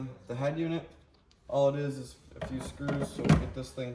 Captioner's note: head unit thumping